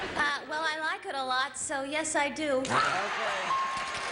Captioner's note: cheers and applause